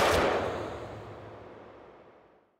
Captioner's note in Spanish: Disparo